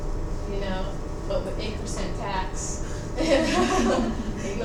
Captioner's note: students laughing